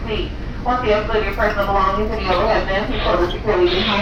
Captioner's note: female announcement